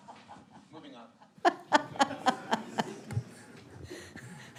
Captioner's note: laughs